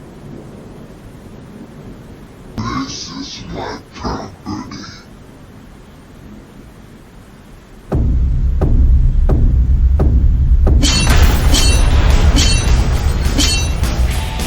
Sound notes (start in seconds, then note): 7.9 footsteps thudding; 10.7 metal clanging